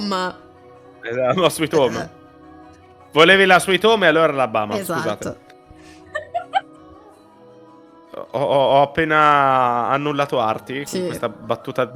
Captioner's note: laughs